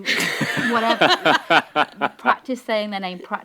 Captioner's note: panel laughing